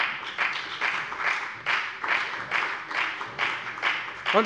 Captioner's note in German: Beifall bei der FDP